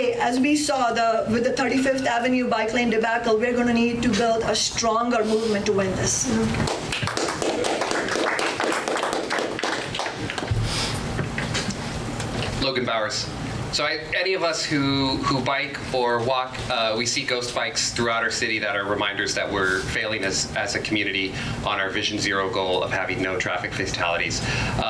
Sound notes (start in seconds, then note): 6.6 audience applause